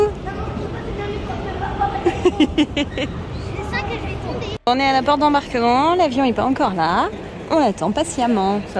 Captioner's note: laughs